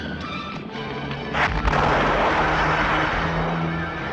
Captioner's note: explosion booms